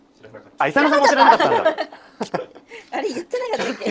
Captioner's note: laughs